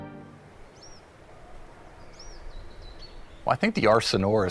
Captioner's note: birds chirping